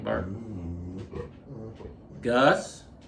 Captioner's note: dog whining